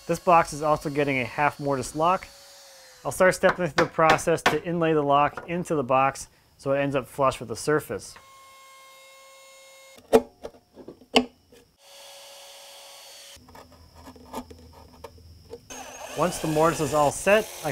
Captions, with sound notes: This box is also getting a half mortise lock. I'll start stepping with the process to inlay the lock into the box so it ends up flush with the surface. (sander buzzing) (chisel grinding) Once the mortise is all set,